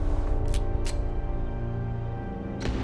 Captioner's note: threatening music; gun cocking